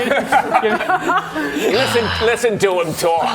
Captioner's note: more death rasp